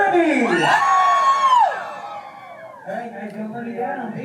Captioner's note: everyone cheers